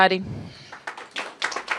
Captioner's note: applause